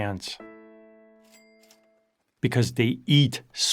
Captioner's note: gentle music; cash register bell ringing